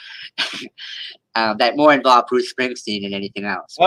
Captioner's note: chuckles